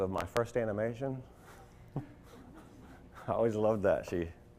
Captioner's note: subtle chuckling